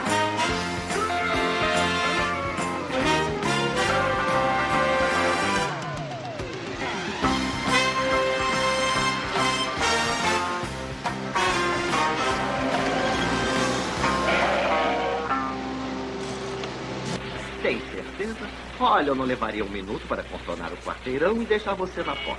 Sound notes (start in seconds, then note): 13.5 tires Screeching